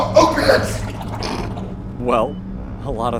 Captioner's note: udo snorts bemusedly